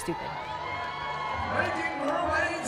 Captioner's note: cheering